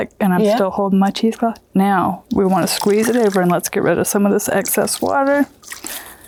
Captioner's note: squirting